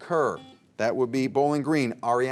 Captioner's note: buzzer beeps